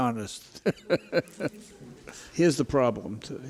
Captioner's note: laughter